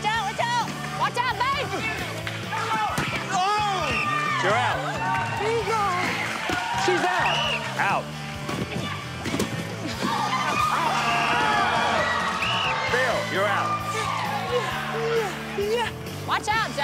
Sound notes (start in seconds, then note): 3.8 whistle blows; 4.7 yells; 7.1 whistle blows; 12.4 whistle blows